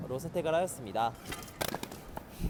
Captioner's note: crashing